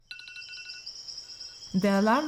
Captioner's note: alarm sound